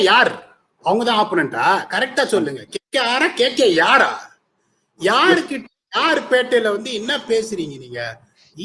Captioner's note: tamil+Kannada